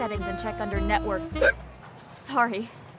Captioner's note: hic